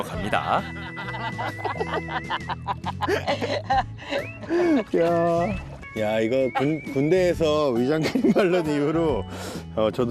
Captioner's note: laughter